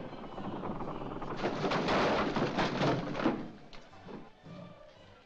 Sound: crash

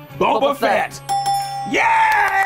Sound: dinging

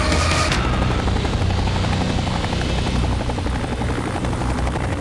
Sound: helicopter whirring

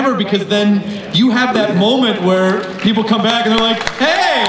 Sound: crowd applauds

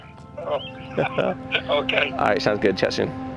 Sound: chuckles

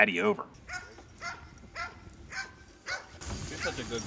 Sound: dog barking

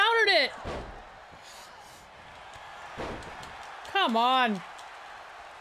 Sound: applause

